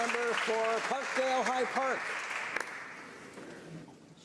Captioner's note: some Applause